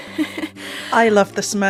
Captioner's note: laughs